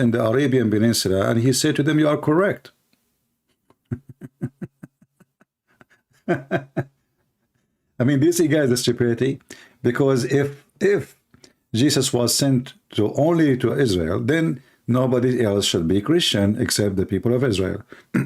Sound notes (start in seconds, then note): 3.7 Ketawa